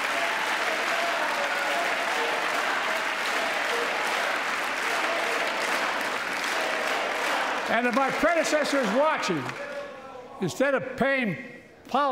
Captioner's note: applause